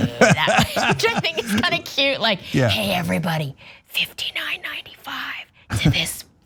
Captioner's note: laugh